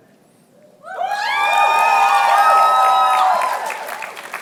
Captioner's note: cheering